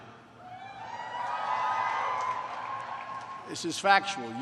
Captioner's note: cheers